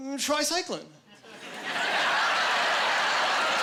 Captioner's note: laughing